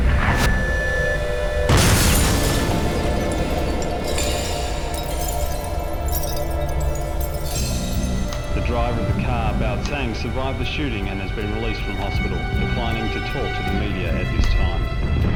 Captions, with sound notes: [Glass shatters] The driver of the car survived the shooting and has been released from hospital. He's declining to speak to the